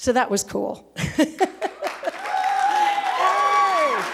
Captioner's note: cheering